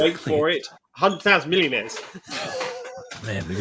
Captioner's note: laughs